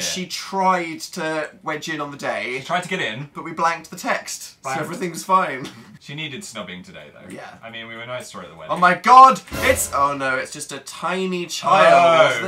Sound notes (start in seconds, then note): 4.7 laughs; 9.4 dramatic music